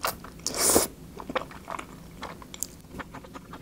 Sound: slurp

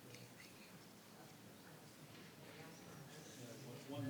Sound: people chattering

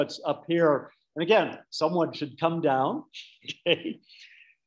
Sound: laughing

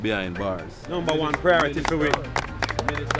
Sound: applause

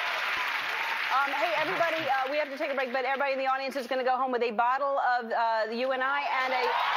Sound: cheers and applause

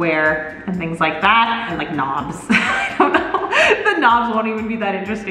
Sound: laughs

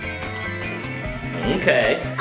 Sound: chiming

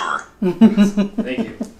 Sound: giggling

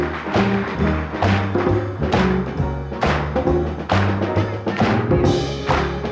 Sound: and the audience clap

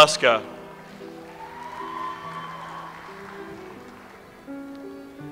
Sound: audience applauds

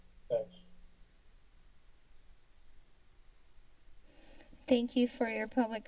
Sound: silence

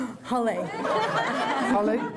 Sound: laughter

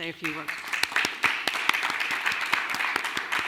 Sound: clapping

